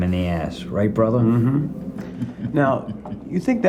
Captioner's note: Brad chuckling